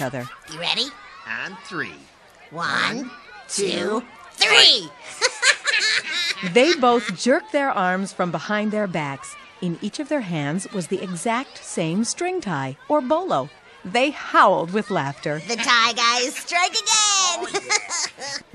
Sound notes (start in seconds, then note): 4.8 laughing